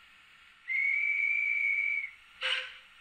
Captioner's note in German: Pfeifen